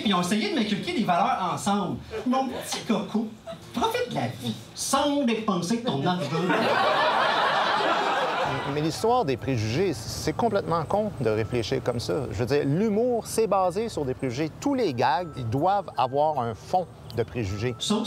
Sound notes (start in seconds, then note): 6.2 laughs